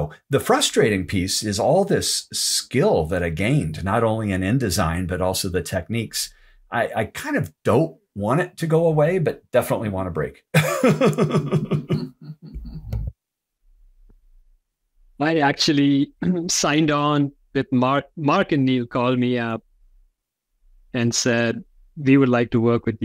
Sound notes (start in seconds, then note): 10.5 laughter